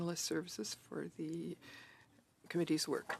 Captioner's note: speaking in French